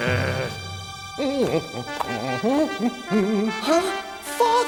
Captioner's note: snarling; humming